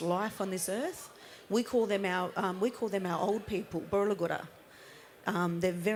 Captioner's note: speaks indigenous language